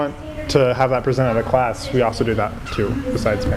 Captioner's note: none